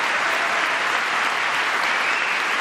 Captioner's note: applause